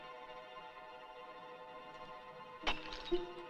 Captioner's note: bottle Shatters